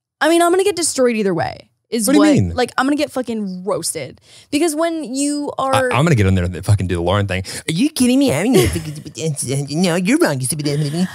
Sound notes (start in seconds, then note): 8.5 mumbling